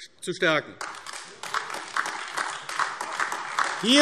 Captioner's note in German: Beifall AfD